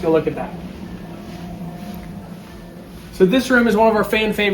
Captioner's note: machinery humming